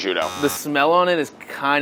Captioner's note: buzzing